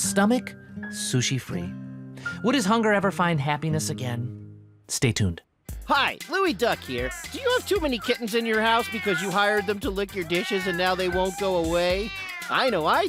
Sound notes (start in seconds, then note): 5.5 quirky music playing; 6.7 kittens meowing